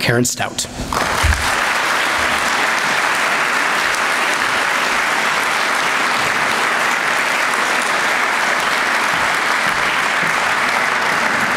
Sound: applause

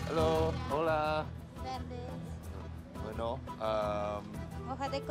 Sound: speaking Spanish

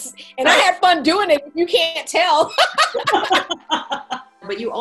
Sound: laughing

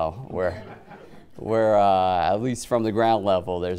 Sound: audience chuckling

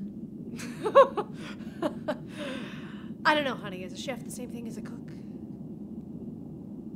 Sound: confident laugh

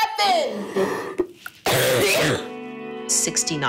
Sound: patient coughing

